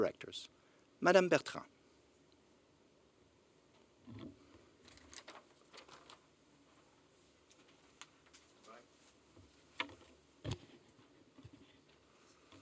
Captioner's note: silence